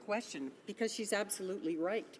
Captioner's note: speaking French